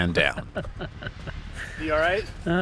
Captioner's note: laughter